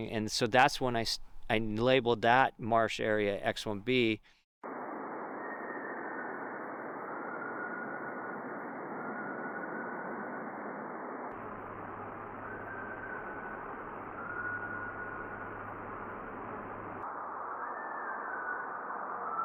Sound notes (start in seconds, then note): 5.3 distant entity whistling; 14.9 distant entity continues whistling